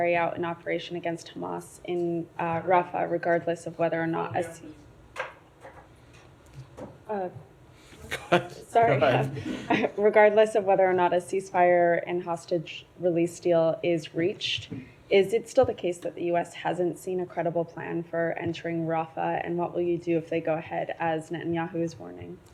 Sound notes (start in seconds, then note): 8.1 laughter